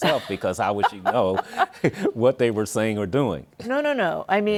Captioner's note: laughs